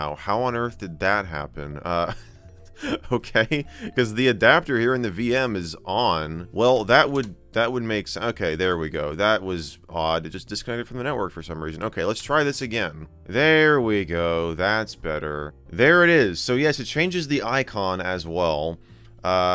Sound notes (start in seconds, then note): 2.8 laughs